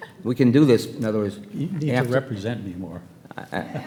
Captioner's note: laughs